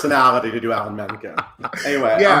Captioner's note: laughing